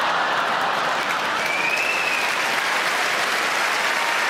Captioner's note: audience laughing; audience clapping